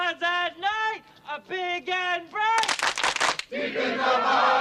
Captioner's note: clapping